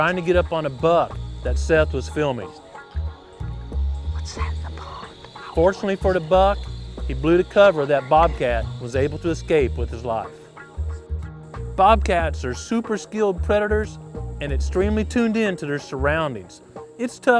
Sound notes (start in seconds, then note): 3.6 whispering